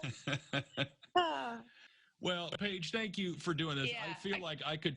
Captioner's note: laughter